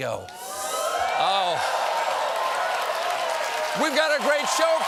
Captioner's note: applause